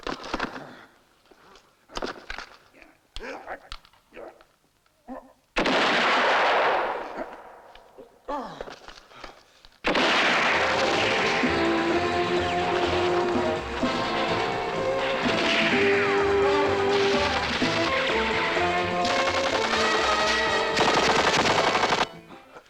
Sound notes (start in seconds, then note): 5.6 gunshot; 8.3 grunting; 9.6 gunshots; 11.1 intense music; 19.0 rapid gunfire